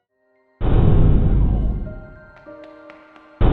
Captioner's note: muffled loud banging noise; light footsteps